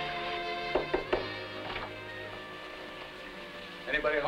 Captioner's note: door knocking